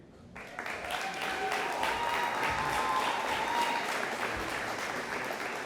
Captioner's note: audience applauding